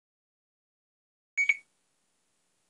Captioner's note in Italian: beeep